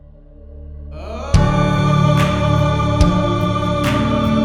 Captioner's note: humming